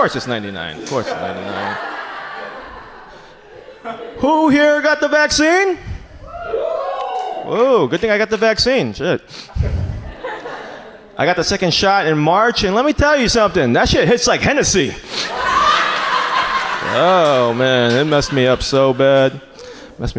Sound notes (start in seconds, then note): 6.2 audience cheers; 15.2 audience laughs